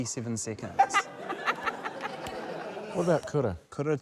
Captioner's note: laughter